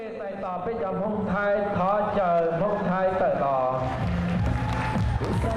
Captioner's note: announcer speaking Hmong; cheering